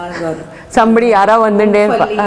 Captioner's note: in Tamil